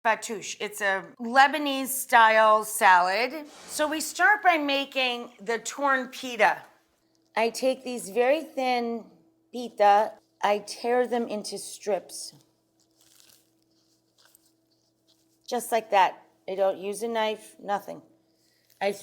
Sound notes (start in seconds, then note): 3.4 screen whooshing; 12.8 pita bread ripping